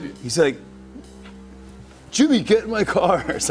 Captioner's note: laughter